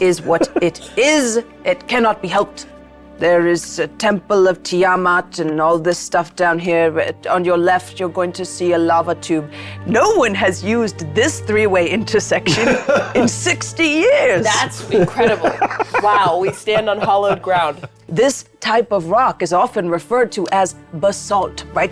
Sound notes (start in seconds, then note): 14.4 laughing